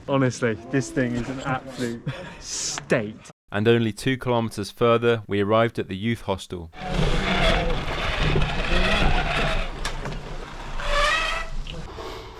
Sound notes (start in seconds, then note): 6.9 unpleasant bicycle sounds